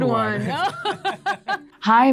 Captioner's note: both laugh